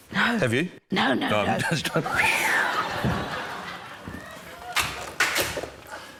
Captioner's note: laughs; crack!